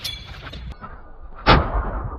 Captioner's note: explosion